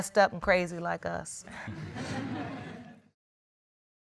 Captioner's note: all chuckling